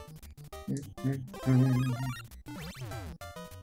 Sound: humming along

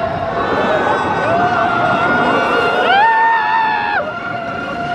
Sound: riders screaming

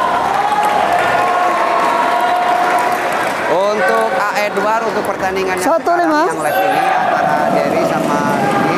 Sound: applause

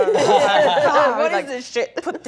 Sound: laughing

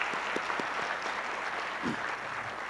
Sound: applause

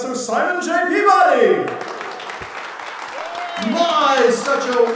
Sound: applause

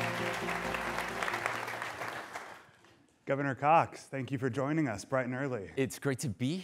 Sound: applause

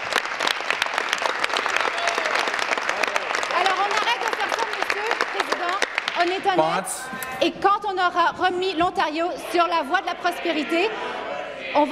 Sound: applause

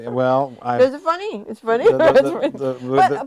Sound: chuckling

